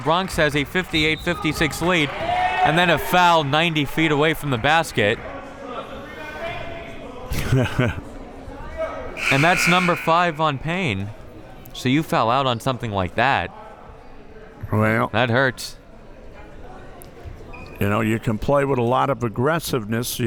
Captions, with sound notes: Bronx has a 58-56 lead, and then a foul 90 feet away from the basket. (laughing) (buzzer ringing) And that's number five on Payne. See, you foul out on something like that, that hurts. - Well. You can play with a lot of aggressiveness,